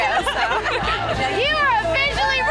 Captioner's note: laughing